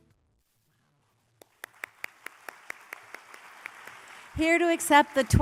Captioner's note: applause